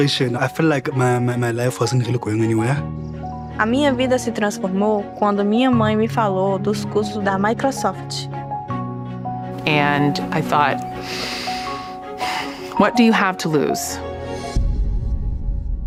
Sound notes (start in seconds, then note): 0.0 not speaking english; 7.5 not speaking english